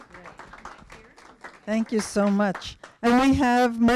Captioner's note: applause